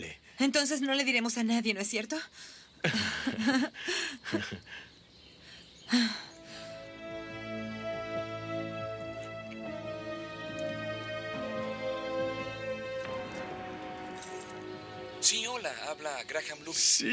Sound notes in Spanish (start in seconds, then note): 2.8 risos; 6.6 música de suspense